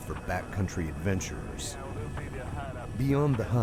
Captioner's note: voiceover